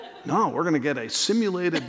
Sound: laughter

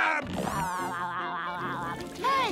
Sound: SpongeBob laughing

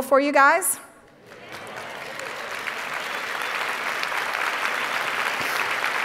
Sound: audience applauding

